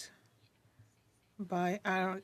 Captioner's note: speaking French